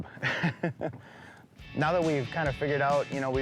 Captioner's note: chuckles